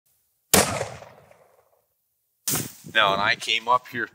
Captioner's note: gun shot